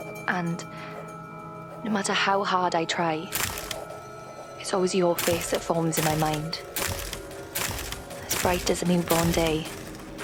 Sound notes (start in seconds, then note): 7.5 shutter continues